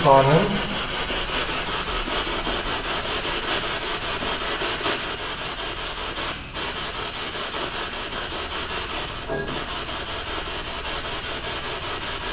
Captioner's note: radio noise from the spirit box